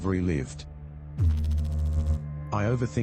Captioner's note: electrical noise